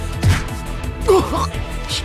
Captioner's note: punch